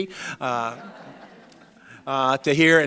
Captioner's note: audience laughing